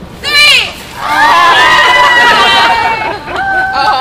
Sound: screams

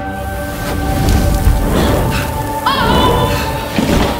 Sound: fire roaring

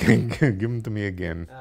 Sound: laugh

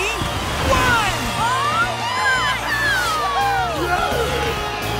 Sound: cheering

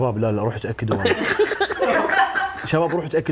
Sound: all laughing

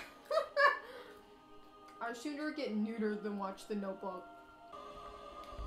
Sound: laughing

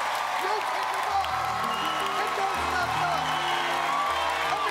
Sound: cheers and applause

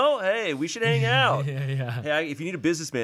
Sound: chuckling

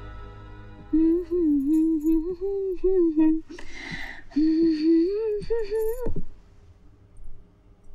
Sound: humming

